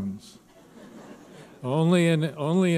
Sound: audience laughing

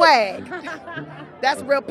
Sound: laughs

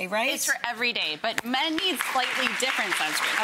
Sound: audience clapping

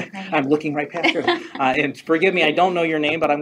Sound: chuckles; laughs

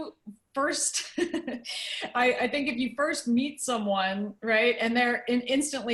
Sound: laughter

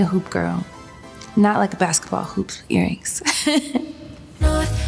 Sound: laughs

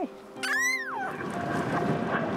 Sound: pup squeals

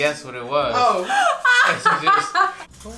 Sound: laughing

